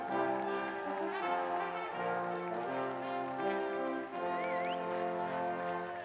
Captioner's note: cheering